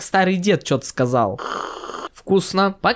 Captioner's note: drinking